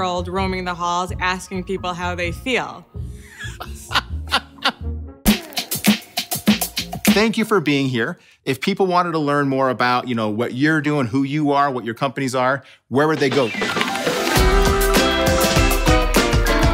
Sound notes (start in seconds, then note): 3.3 laughing; 13.0 upbeat music